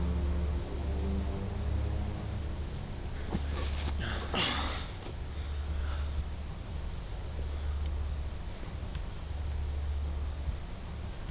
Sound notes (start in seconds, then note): 4.3 grunt